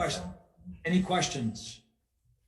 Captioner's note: chattering